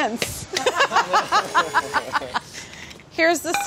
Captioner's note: laughs